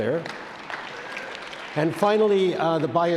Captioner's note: audience claps